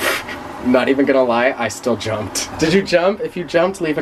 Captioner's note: chuckles